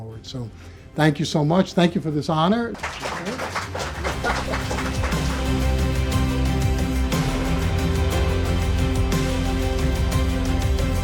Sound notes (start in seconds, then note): 2.7 audience applauding; 5.4 inspiring music